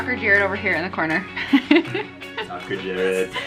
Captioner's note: laughs